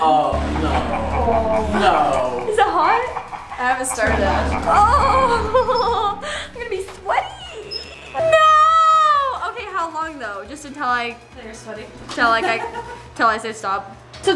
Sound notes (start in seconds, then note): 1.3 evil laughing; 4.7 whines